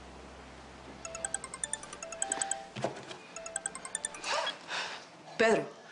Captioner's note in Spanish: Suena el celular